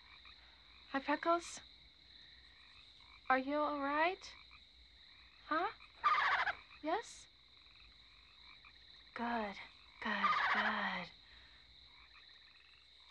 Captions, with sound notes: Huh, Freckles? Are you all right, huh? (Freckles cooing) Yes? Good, good, good. (Freckles cooing)